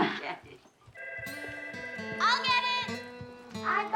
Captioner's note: telephone rings